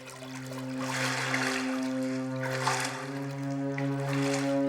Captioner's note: water splashing